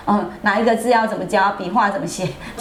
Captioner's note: laughs